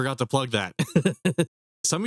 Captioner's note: laughs